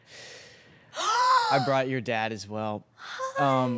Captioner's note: gasps